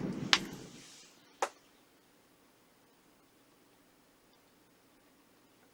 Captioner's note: scratching